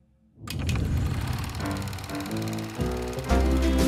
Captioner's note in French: cliquetis d'un projecteur